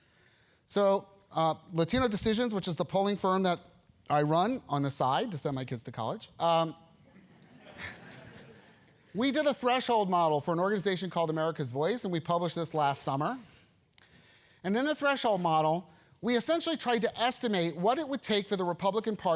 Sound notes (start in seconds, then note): 7.1 laugh